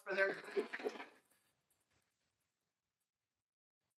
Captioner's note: applause